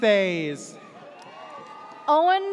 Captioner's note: audience cheers